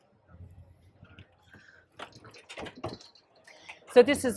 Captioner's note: bed clicking